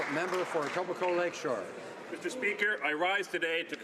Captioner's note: some Applause